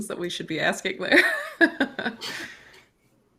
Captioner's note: chuckles